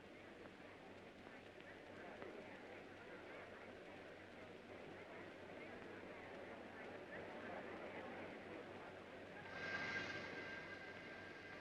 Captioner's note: faint chatter